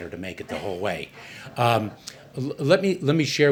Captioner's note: laughter